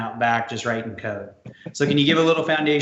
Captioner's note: laughs